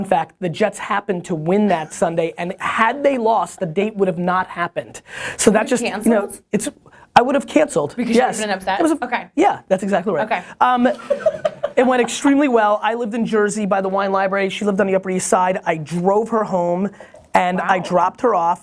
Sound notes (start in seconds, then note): 10.9 laughter